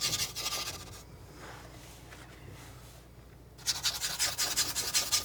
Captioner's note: scratching